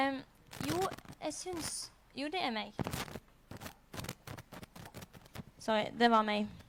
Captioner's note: causing the static